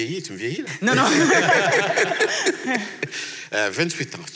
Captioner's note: laughs